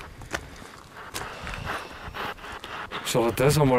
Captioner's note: radio noise from the spirit box